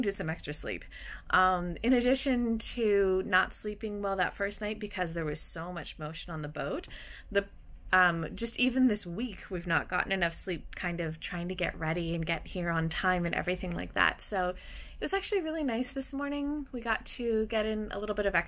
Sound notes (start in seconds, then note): none